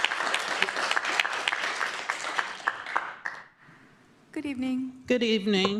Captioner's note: applause